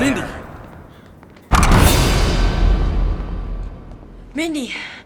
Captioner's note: tense music; door handle cracks